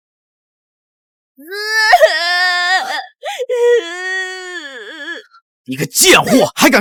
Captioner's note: 子供の泣き声